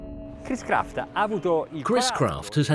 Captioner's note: speaking Italian